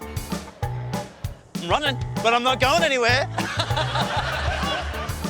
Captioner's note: laughs